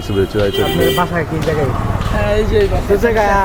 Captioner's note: local language